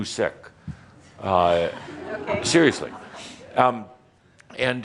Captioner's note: a few chuckles